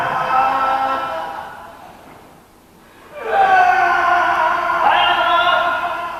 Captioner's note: impatiently; reciter's cries continues; reciter's cries continues